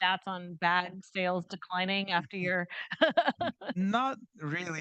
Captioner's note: laughing